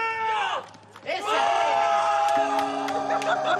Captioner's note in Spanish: grita; Risas y aplausos